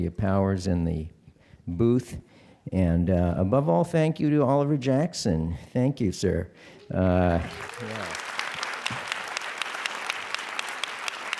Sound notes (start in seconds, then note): 7.3 applause